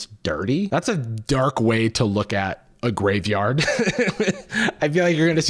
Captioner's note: laughs